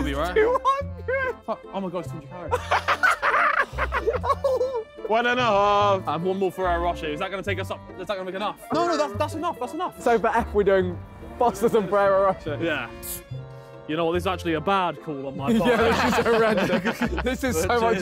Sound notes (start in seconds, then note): 2.5 all laughing